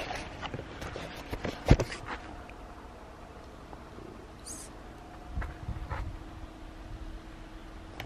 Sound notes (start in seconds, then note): 1.5 camera being handled; 7.7 loud noises from the cooling refrigerators